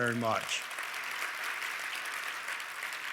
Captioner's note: applause